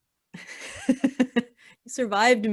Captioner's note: laughing